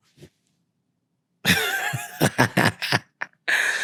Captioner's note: laughing